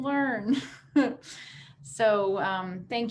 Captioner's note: chuckles